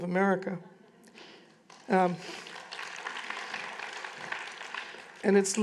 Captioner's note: applause